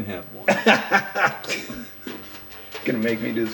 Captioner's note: laughing